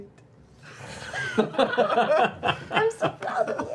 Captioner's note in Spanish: risas